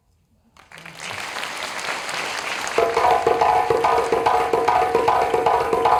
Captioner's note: applause; djembe